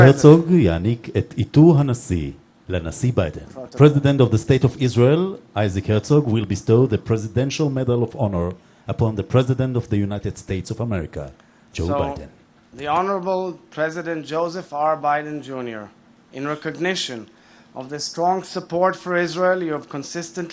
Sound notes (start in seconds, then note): 4.9 speaking foreign language